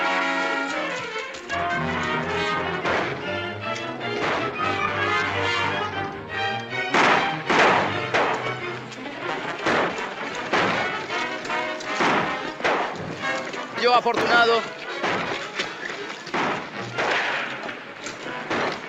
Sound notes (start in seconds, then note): 6.8 gunshots